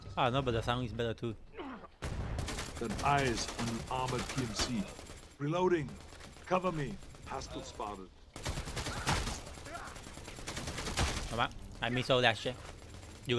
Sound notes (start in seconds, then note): 2.0 guns firing; 8.3 guns firing